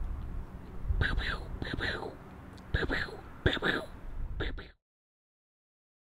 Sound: pew pew - very fake gun sounds

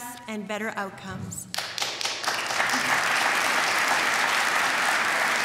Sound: applause

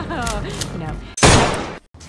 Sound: gunshot

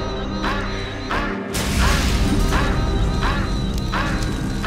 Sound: fire whooshing

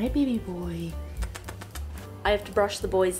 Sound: kiss

